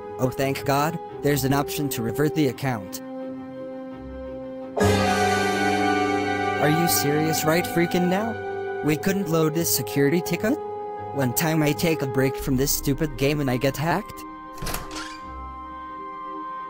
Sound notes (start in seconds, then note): 14.4 SFX: Door opening